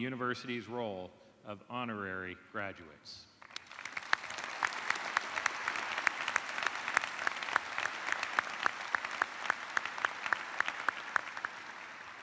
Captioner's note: applause